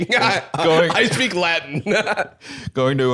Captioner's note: laughs